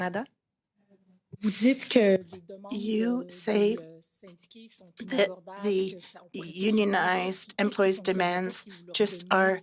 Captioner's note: speaking FRENCH